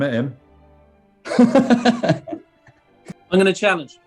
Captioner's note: laughing